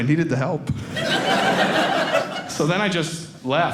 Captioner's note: audience laughing